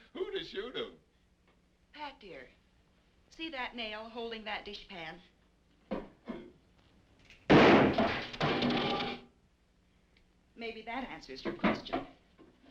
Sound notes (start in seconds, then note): 7.4 gun firing